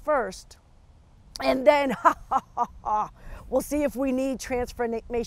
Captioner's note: chuckles